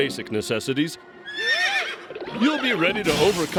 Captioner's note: whinnies